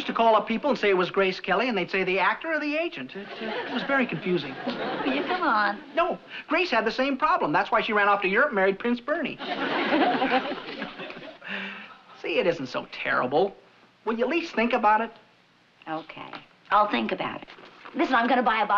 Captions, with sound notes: I used to call up people and say it was Grace Kelly and they'd say, "The actor or the agent?" -It was very confusing. -Will you come on? No, Grace had the same problem. That's why she ran off to Europe and married Prince Bernie. (chuckling) See, it isn't so terrible. Will you at least think about it? Okay, I'll think about it. Listen, I'm gonna buy a bottle of champagne